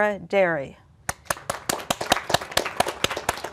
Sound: applause

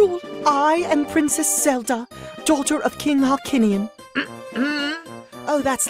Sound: LINK clears their throat

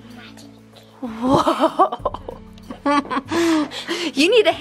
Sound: chuckles

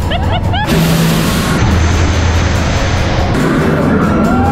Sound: laughs; air whooshing; people screaming

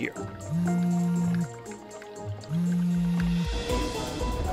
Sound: phone ringing

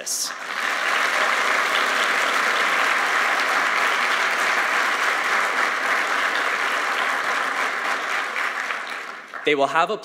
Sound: applause

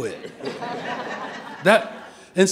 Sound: audience laughing

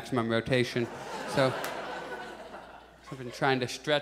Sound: audience laughs

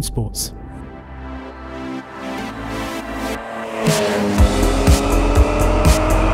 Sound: upbeat music; car engine roaring

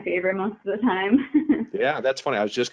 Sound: laughing

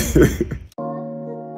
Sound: Van laughing; lofi music

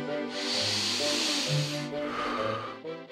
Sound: inhaling slowly; exhaling

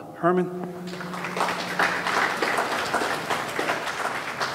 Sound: audience clapping

